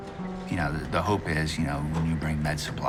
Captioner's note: none